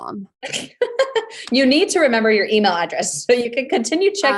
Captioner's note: laughs